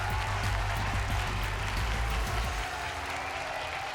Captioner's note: applause